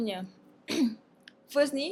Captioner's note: cough